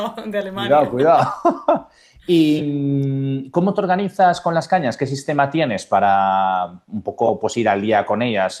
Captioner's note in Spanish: risas